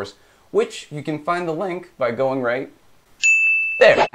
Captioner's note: ding